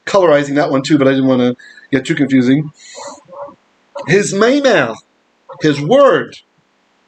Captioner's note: Aramaic